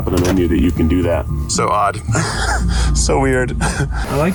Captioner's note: laughs